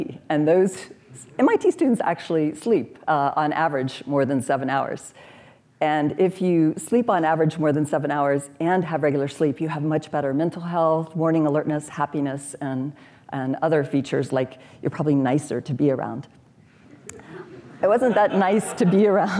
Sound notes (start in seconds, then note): 17.4 laughter